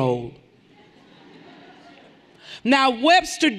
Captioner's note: everyone laughing lightly